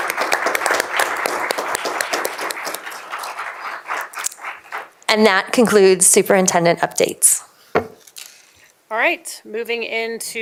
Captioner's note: applause